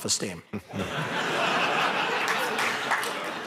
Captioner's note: laughter